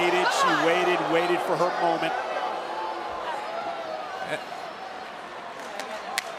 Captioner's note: audience groaning